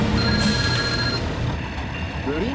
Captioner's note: phone ringing